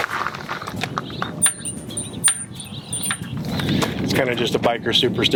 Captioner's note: bell ringing